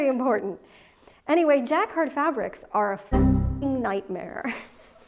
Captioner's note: Windows error